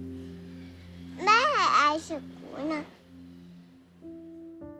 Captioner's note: Cantonese